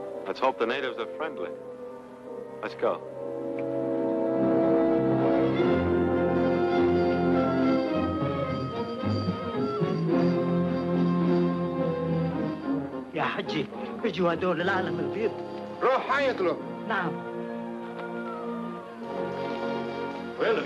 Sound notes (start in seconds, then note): 4.5 dramatic music; 13.1 man speaking in foreign language